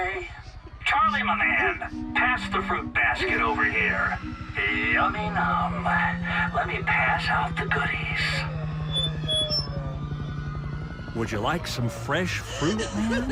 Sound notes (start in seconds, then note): 8.2 distant screaming; 8.8 loudspeaker squeaks off